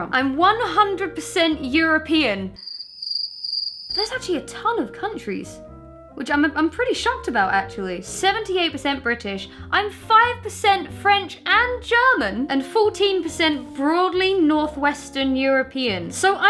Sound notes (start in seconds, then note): 2.5 cricket chirps